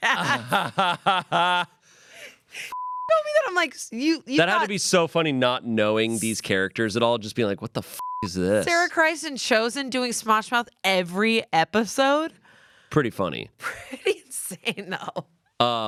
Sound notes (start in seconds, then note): 0.0 everyone laughs; 2.7 beep; 8.0 beep